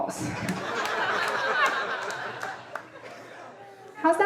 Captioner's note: audience laughing